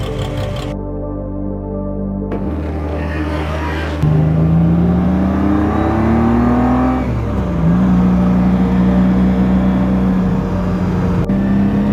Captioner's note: V12 sounds